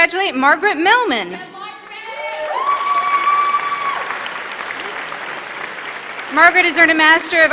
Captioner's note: applause